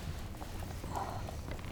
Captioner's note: aches